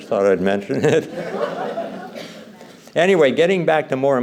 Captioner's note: laughter